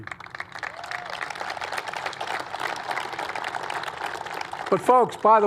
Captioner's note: applause